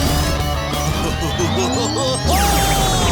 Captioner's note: chuckling